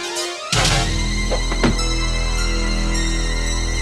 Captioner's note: speargun firing